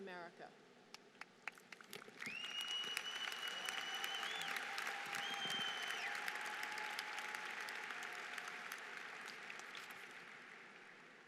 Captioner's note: applause